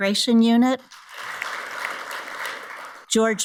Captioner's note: audience applauds